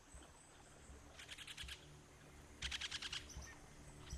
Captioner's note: bird chirping